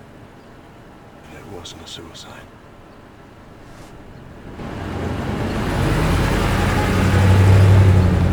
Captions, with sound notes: and it wasn't a suicide. (engine humming)